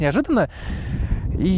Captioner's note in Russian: вздох